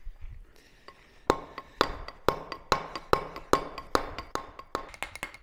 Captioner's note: metal hammering